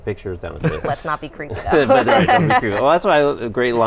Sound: laughs

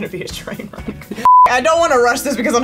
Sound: beeps

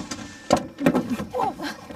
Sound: rustling sound; thudding sound

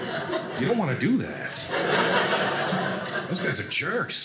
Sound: audience laughing

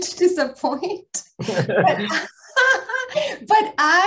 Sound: laughter

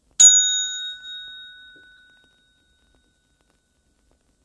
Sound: bell dinging

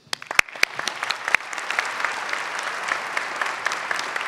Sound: audience applauds

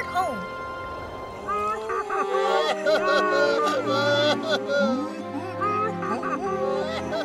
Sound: crying

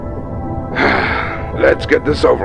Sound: sigh

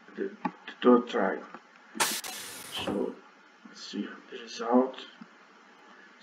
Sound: sound of submarine

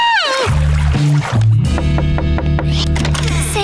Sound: screaming; knocking

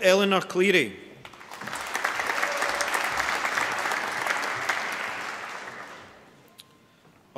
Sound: applause

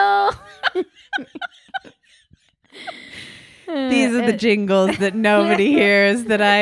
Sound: laughing

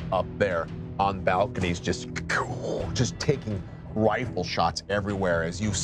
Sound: hums

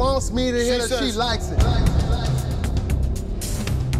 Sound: voice echos; dramatic music

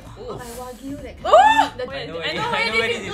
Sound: shrieks

